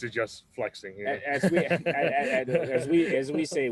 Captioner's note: laughs